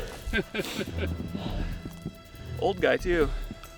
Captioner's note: laughs